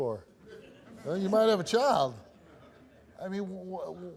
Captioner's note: audience members laugh